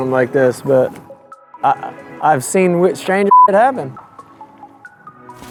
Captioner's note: beep